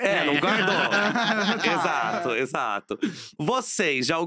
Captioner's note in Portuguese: risos